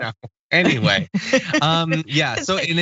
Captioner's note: laugh